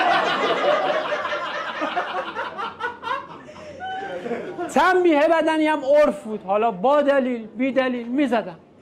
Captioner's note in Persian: خنده